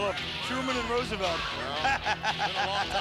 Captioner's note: laughs